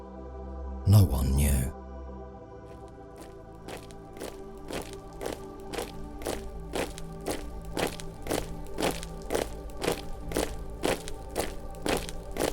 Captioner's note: marching